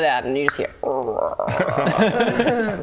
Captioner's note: famished grumbles